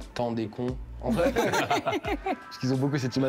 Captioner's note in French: rires